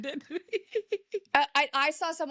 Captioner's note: laughs